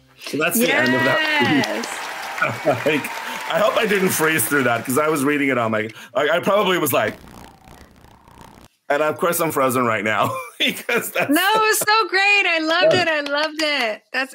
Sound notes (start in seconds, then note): 0.6 applause; 6.2 tv static sound